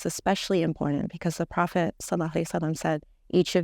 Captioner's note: speaking Arabic